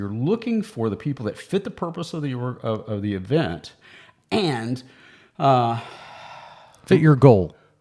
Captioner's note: sighs